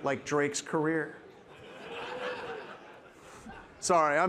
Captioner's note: participants laughing